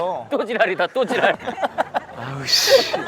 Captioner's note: giggling